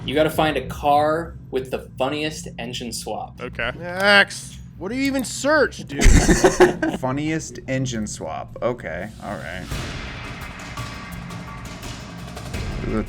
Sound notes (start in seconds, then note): 6.0 laughs; 9.6 suspenseful music